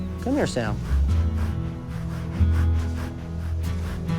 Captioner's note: softly huffing